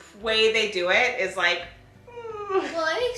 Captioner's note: winces painfully